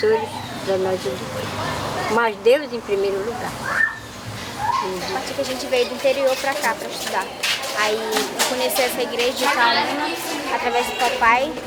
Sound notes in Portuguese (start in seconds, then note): 4.6 grito de criança; 11.4 rumor de vozes do ambiente